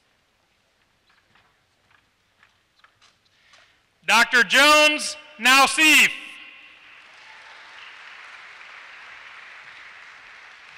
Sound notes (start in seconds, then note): 6.8 applause